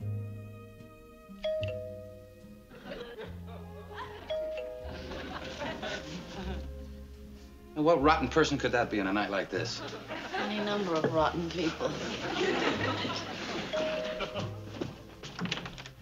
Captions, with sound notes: (doorbell rings) Now, what rotten person could that be on a night like this? Any number of rotten people. (doorbell rings)